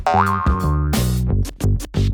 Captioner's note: springing sound; fun instrumental music